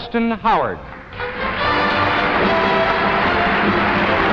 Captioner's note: audience applauding